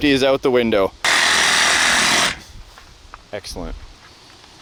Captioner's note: saw buzzing